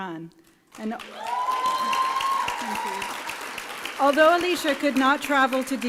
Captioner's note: applause and cheering